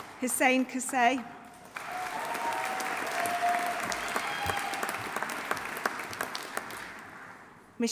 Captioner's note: audience applauding; audience cheering